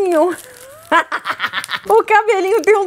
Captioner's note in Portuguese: risos